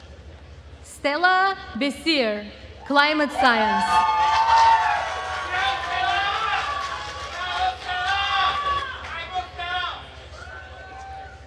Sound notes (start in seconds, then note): 3.4 attendees cheering and applauding